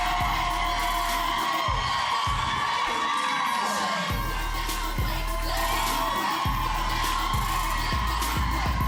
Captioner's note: applause